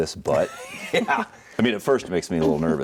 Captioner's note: laughs